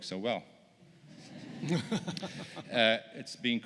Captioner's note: laughter